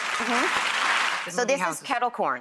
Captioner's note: audience applauds